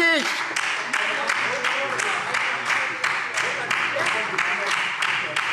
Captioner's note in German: Beifall SPD - Zuruf AfD